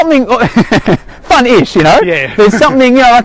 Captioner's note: laughs